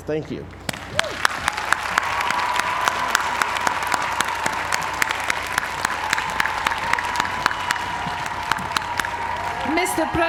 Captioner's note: applause